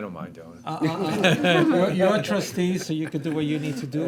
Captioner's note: board members laughing